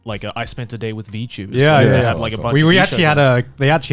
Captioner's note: affirmative murmuring